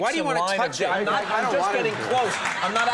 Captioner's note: audience laughing